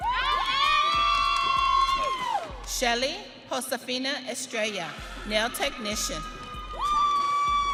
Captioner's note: audience cheering